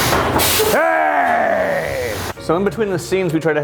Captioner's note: growls